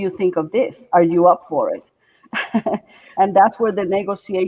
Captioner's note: laughing